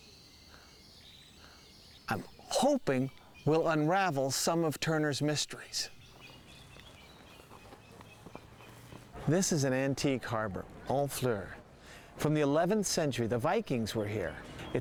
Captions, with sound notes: (birds chirping) I'm hoping we'll unravel some of Turner's mysteries. (birds chirping) This is an antique harbor, Honfleur. From the 11th century, the Vikings were here.